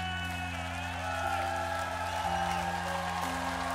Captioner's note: crowd cheering